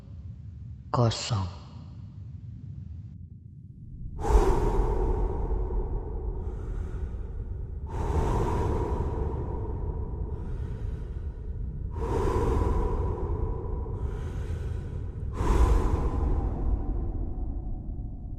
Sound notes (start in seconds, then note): 4.2 exhalation